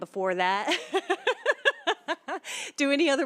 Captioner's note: laughter